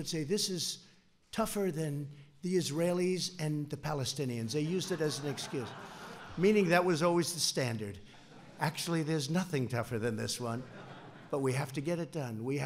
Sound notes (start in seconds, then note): 4.7 laughter; 10.5 laughter